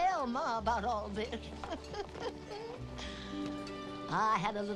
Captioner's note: chuckling